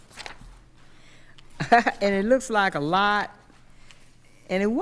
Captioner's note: laughs